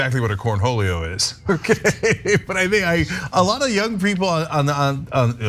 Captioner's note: laugh